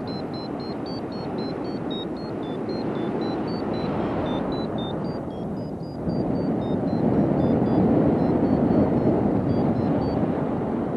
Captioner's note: vario beeping